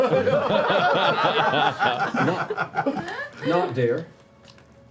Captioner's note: laughter